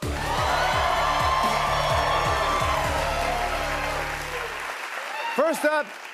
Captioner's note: cheers and applause